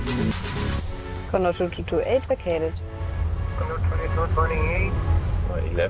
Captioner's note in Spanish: Anuncio de radio